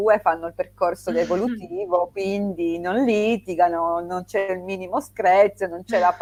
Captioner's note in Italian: schiarire la voce